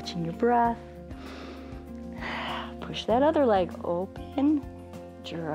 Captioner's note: inhales and exhales